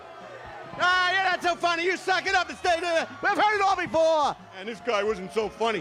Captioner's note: audience continues to express dissatisfaction; mockingly